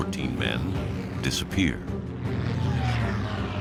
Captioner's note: plane engines